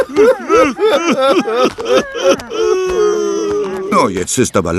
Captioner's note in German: gelächter